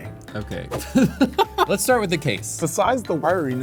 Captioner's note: laughs